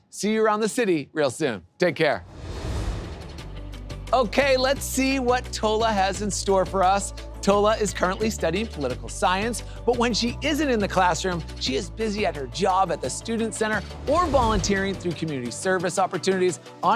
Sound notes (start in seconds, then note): 2.2 graphics whoosh; 3.5 upbeat airy music; 14.5 graphics whoosh